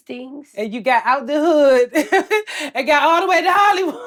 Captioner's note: laughs